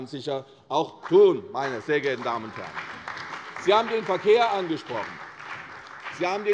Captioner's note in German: Beifall bei der CDU und dem BÜNDNIS 90/DIE GRÜNEN